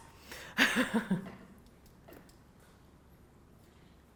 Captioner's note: laughing